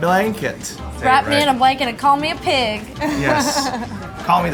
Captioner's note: laughs